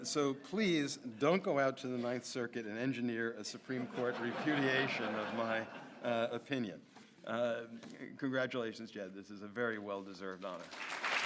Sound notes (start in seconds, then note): 5.7 audience laughs